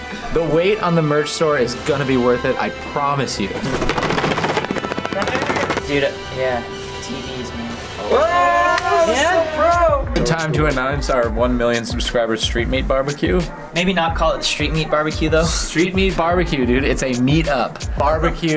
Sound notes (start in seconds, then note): 3.6 drumming; 8.0 cheering